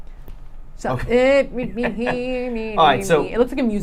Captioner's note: vocal hum